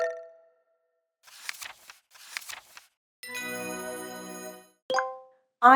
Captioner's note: pages turning, happy sound